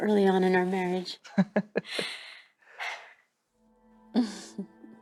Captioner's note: laughing